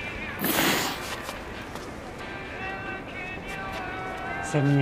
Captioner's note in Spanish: Soplido